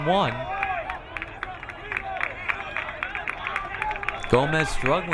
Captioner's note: crowd cheering